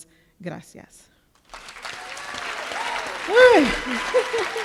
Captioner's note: applause